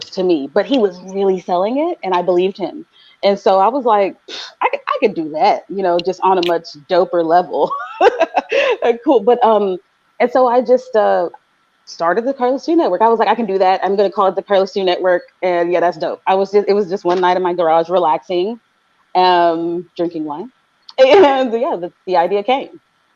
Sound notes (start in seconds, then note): 7.6 laughing